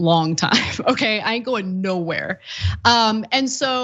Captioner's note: laugh